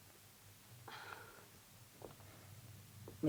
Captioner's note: Cleo sighs